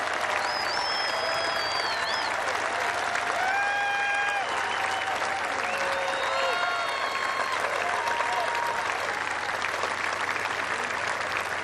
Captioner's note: cheers and applause